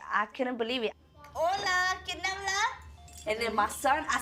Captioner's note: speaking in Spanish